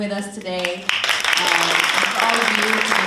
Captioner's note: audience applauding